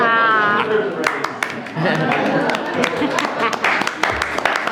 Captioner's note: audience applauding